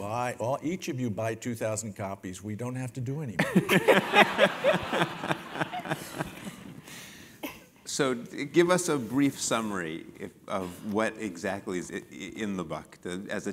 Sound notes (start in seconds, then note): 6.0 laugh